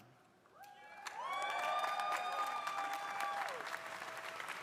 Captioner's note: crowd applauding